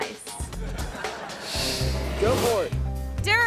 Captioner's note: audience laughs